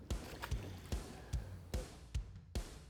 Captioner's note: water splashing; upbeat country music